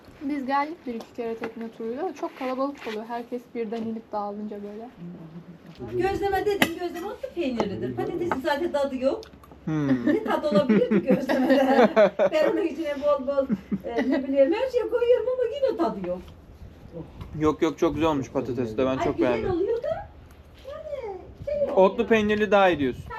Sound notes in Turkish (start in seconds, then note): 9.8 kahkaha